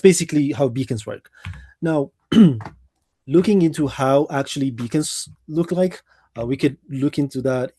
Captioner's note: clears throat